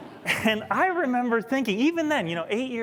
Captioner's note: laughter